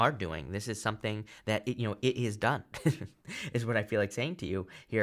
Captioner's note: chuckles